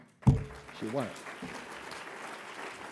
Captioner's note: audience clapping